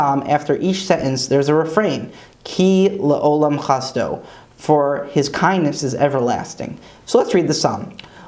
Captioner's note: Hebrew